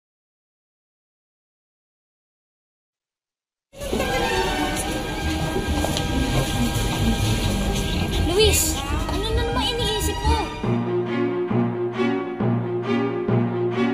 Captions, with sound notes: [chattering] Luis, what are you thinking? [thrilling music playing]